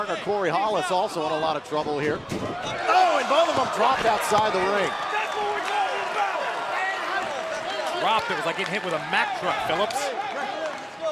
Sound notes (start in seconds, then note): 5.3 crowd cheering